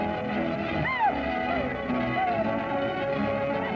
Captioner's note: whooping